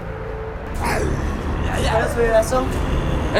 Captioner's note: growling